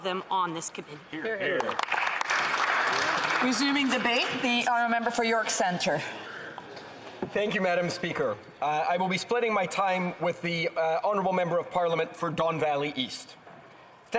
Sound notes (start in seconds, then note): 4.7 some Applause